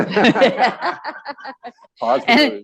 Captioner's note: laughter